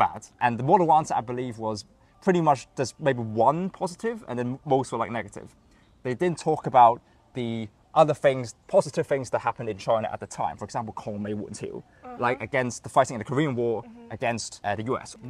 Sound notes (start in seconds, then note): 10.9 Cantonese